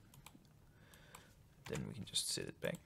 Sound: mouse clicks

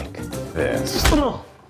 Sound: smack

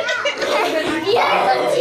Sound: chattering

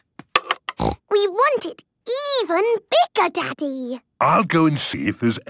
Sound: snorting

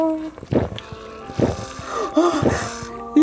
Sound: gulping

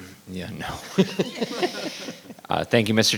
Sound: laughs

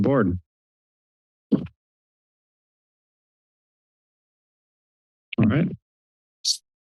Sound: pause

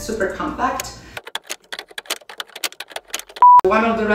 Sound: keyboard clacking

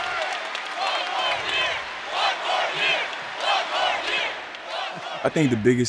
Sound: applause; crowd chanting "one more year!"

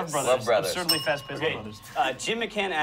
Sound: bell dings

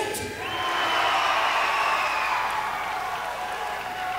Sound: loud cheers

